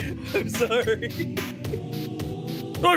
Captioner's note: laughing; laughs